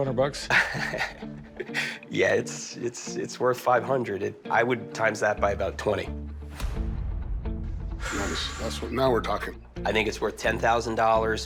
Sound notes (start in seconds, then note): 0.4 laughs; 7.9 exhales deeply